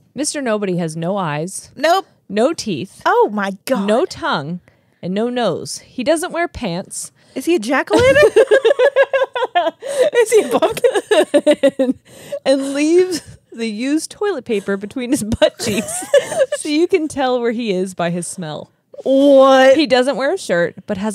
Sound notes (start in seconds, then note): 7.9 laugh; 15.4 laughs